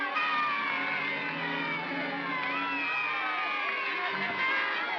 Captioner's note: mob cheering; ominous music; trumpets sounding; mob cheering